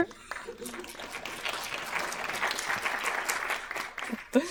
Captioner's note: audience applauding